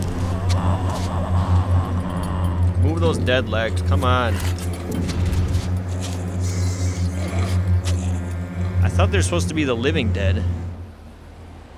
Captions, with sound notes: (zombie growling) - Move those dead legs. Come on. (footsteps shuffling) - I thought they were supposed to be the living dead.